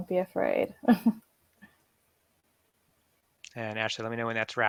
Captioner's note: laughs